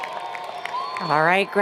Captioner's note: cheers and Applause